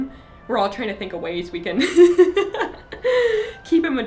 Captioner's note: laughing